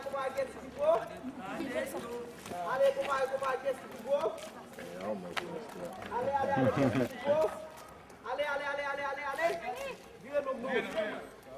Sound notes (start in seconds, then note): 9.2 laughs